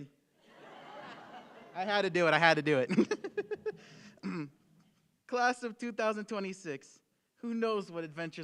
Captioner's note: laughter